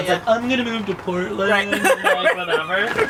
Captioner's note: laughter